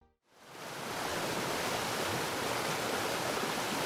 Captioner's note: water rushing